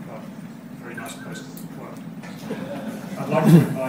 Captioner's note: audience laughs